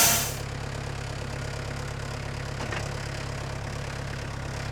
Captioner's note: engine purring